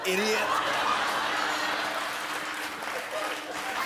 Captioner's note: laughter